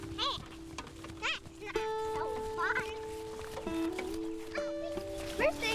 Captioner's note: children shouting indistinctly